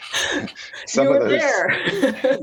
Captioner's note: laughs